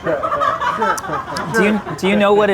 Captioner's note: all laugh